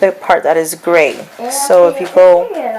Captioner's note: child talks